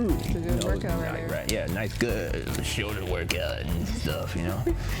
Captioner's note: trying to sound cool?